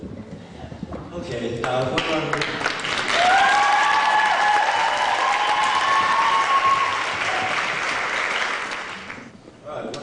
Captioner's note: applause